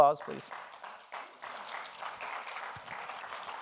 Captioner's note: applause